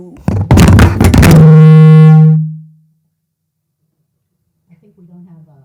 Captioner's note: microphone screeching